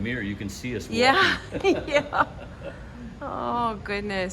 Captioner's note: laughs